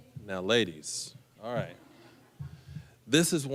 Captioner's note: audience chuckling